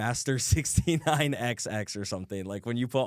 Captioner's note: laughs